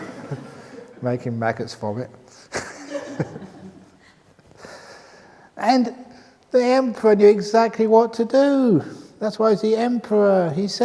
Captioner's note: laughter; laughs